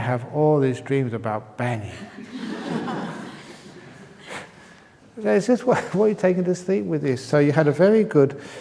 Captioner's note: laughter